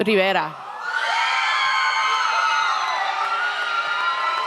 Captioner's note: audience cheers